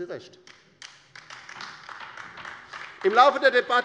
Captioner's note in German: Beifall bei der LINKEN